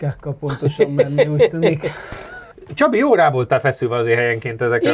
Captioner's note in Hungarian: nevetés